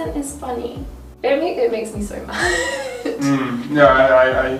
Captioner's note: laughs